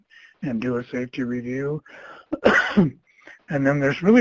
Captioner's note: coughs